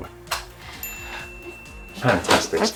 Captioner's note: bell rings